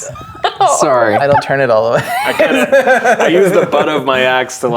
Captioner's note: players laughing; laughing